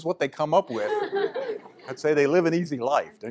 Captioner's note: laughter